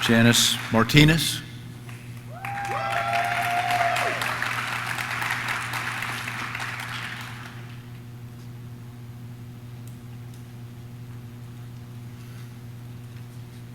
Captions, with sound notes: Janice Martinez. (audience cheers) (audience claps)